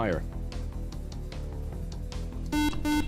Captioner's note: beep